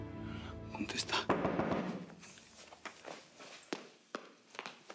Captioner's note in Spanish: toques en la puerta